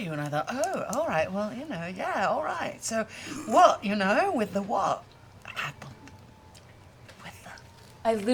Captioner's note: whispers